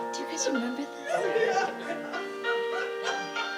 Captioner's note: sad piano music; laughter; sad piano music